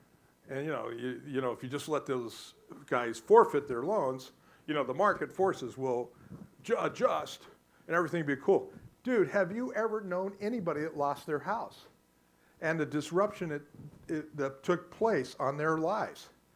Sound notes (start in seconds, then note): none